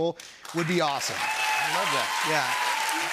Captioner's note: cheers and applause